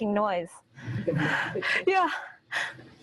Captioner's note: audience laughing